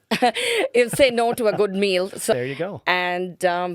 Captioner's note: laughing